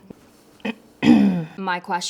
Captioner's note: clearing her throat